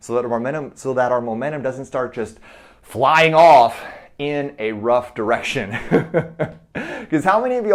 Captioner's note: chuckles